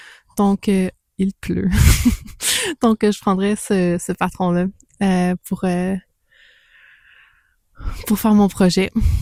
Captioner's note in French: rires